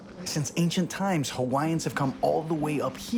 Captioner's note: wind whipping